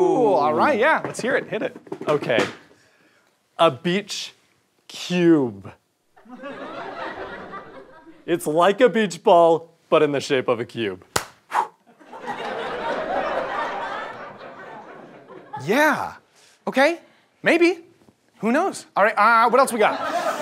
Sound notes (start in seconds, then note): 6.2 audience laughter; 11.1 clap; 11.6 dramatic exhale; 11.9 audience laughter